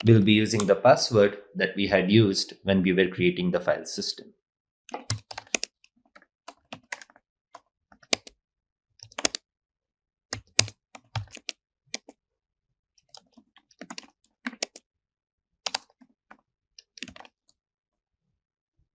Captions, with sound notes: We'll be using the password that we had used when we were creating the file system. (keystrokes clicking) (keystrokes clicking continues)